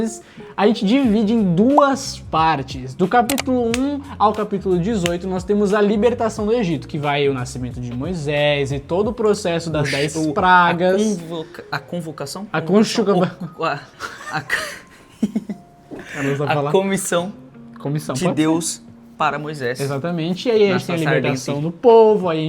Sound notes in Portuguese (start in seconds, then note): 13.9 risadas